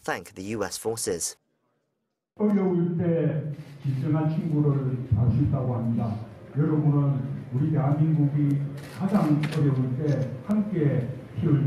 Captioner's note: Korean - YTN